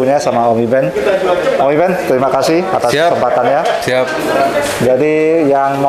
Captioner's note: distant chattering